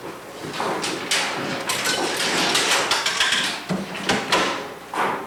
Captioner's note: coin clinking